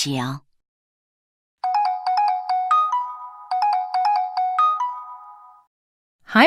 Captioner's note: cell phone rings